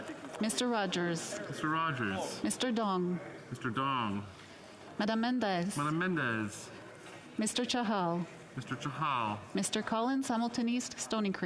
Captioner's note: calling of recorded vote